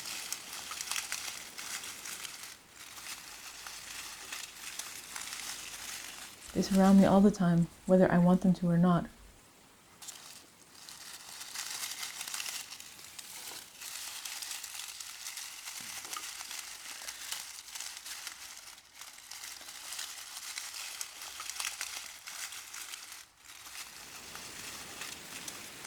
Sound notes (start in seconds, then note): 0.0 noise of reeds crunching grows louder; 9.9 noise of reeds crunching and rustling